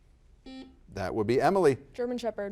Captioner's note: buzzer buzzes